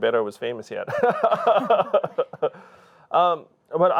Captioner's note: both laugh